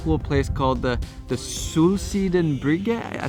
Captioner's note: speaks in foreign language